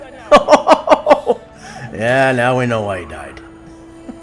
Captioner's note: laughs